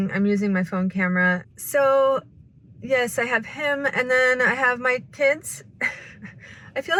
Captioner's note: laughs